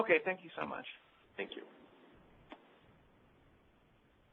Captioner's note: voiceover